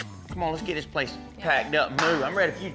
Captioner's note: claps hands